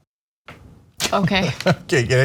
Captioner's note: laugh